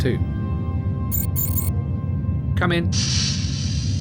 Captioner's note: door buzzer